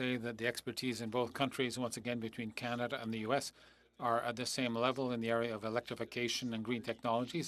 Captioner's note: speaking French